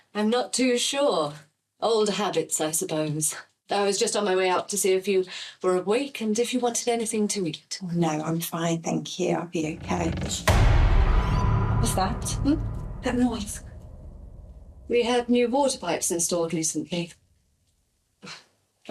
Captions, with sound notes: I'm not too sure, old habits I suppose I was just on my way up to see if you were awake and if you wanted anything to eat? Oh no I'm fine thank you I'll be okay. [CREAK] What was that that? That noise, We had new water pipes installed recently